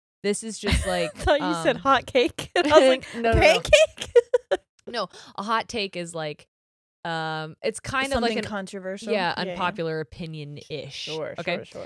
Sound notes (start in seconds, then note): 2.5 laughing